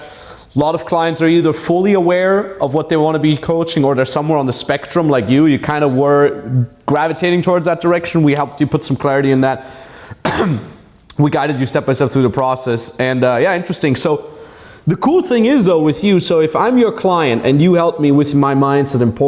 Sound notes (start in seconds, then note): 10.2 clearing throat